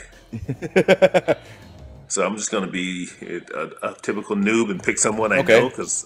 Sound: laugh

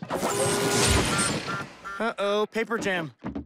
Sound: small explosion

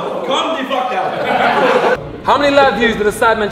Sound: group laughs

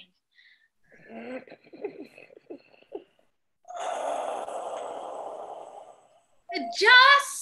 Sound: ROBIN takes a ragged breath

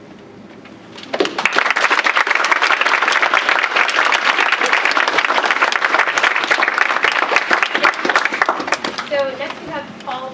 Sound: applause

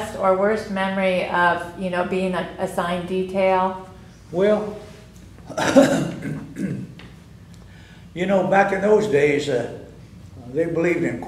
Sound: laughs

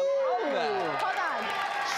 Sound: audience applauding

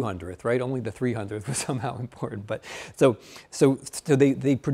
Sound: chuckling

